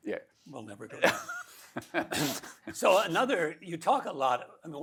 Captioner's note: laughs